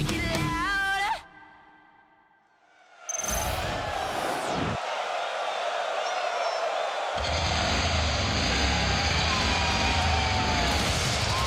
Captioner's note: crowd cheering